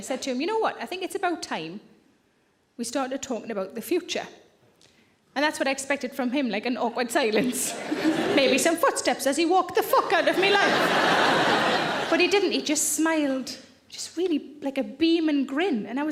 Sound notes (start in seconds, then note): 7.5 chuckles; 10.2 audience laughing loudly